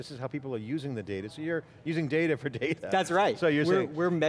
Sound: laughs

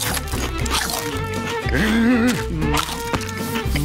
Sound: groaning

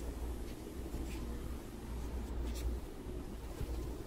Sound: fan whirs

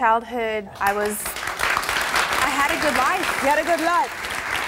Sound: audience claps

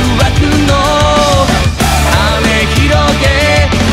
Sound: woo-hoo

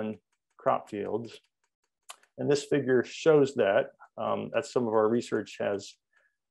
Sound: sound of vigorous clicking

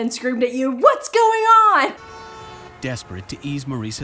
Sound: horn honks

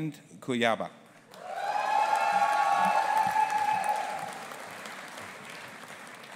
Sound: audience applauding and cheering

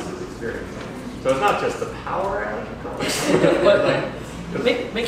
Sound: laughter

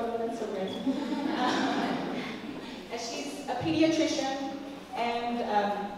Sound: laugh

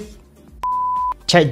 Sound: beep

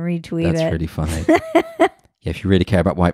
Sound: laughs loudly

